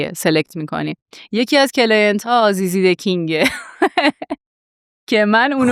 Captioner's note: laughs